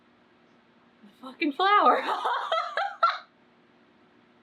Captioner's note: laughs